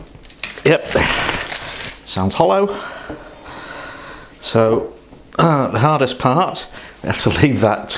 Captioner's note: taps bread